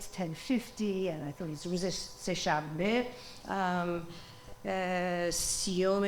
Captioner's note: speaking foreign language